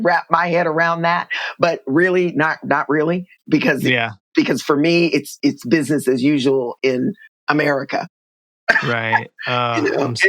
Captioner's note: laughter